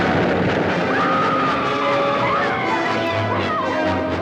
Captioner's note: women scream